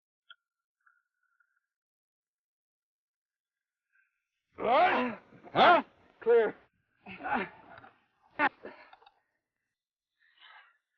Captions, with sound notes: - Right! Huh? (Sheriff groans) - Clear.